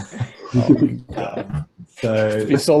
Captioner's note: group chuckles; laughs